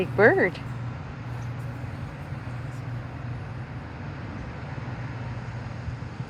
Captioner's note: wind blowing